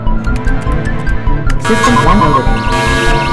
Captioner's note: Alarm ringing